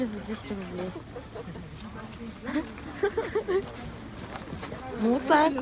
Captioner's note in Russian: смех